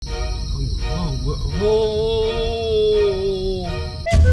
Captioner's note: fearful cricket sound